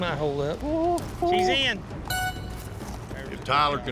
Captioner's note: blows horn